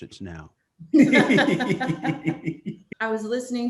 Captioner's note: laughing